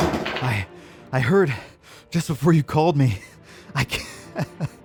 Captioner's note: heavily breathing; laughs